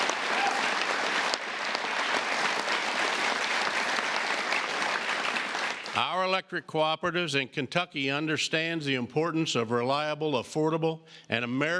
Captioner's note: applause